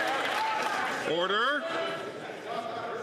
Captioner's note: some Applause